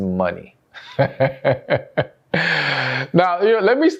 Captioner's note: laughs